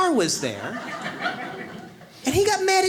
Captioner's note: audience laughs